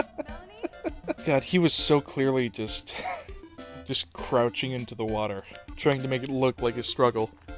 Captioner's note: chuckle; wheeze